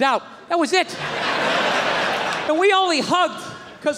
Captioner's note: crowd laughs